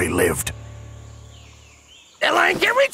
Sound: birds singing

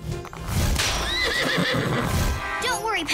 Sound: horse neighs

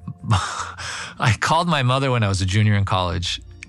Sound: laugh

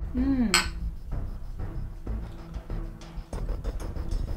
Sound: glasses clinking

